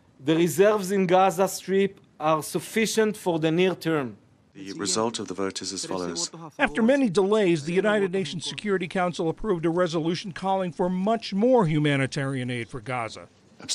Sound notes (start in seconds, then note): 4.6 through translator